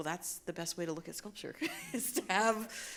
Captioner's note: chuckles